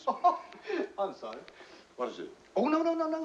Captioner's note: laughs